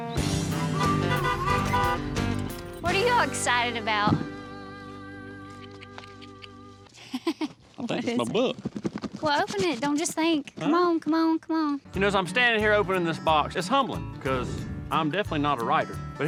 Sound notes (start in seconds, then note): 0.3 honking; 6.9 chuckles